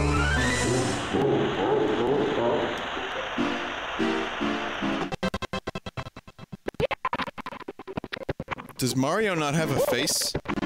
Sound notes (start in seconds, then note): 0.7 Bowser laughs; 2.7 sliding sound effect; 6.9 stuttering